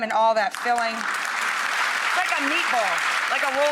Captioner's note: audience applauding